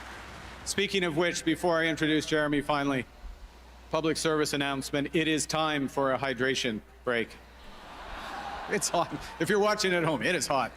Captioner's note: cheers and Applause